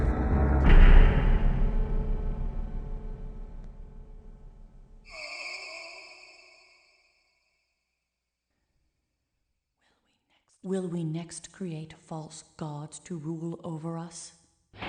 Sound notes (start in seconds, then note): 0.6 clank; 5.1 distant moan